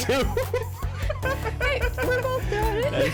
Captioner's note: laughs